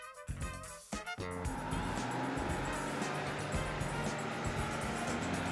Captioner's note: bus engine rumbling